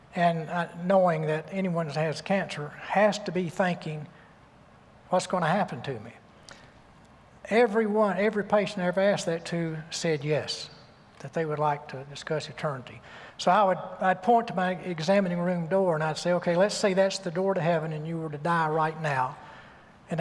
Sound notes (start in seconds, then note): none